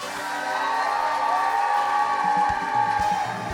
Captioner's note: audience cheering; exciting music